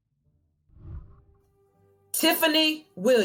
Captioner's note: whooshing